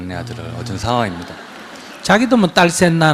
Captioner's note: audience Laughter